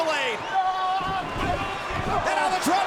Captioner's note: Rusev yelling; body thudding